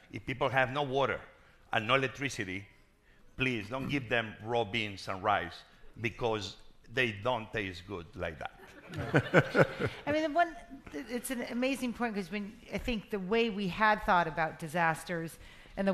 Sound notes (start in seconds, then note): 8.7 crowd laughing